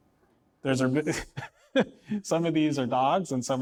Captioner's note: laughs